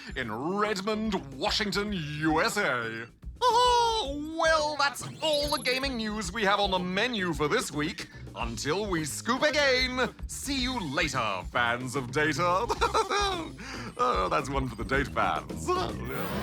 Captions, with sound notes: in Redmond, Washington, USA. Aha! Well, that's all the gaming news we have on the menu for this week. Until we Scoop again, see you later, fans of data. (LAUGHS) That's one for the data fans.